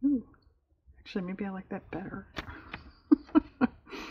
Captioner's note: laughs